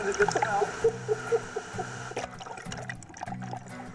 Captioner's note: laughing